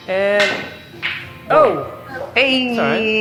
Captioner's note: clink